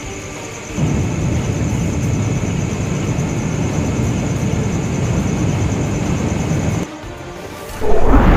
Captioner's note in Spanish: Sonido de Mochila Propulsora